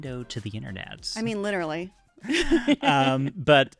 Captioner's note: laughs